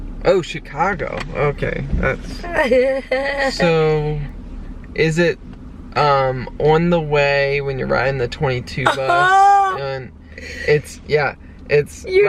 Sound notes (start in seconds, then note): 2.4 giggling